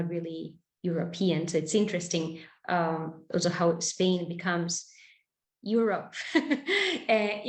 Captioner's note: laughing